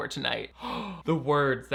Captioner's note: gasps